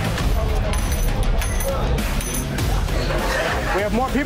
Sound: coins clinking

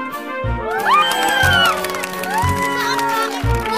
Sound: cheering

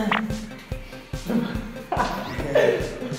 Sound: his laughter went first

